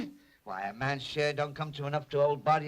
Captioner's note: spits